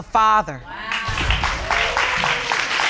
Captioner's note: audience exclaiming and clapping